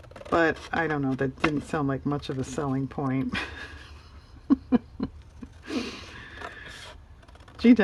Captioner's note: laughs